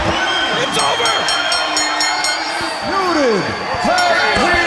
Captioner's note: bell rings